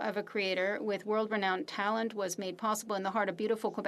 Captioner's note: speaking French